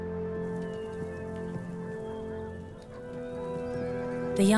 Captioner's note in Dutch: hoeven stampen